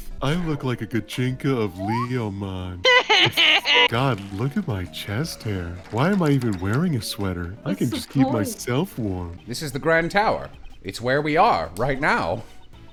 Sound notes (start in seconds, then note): 2.8 laughter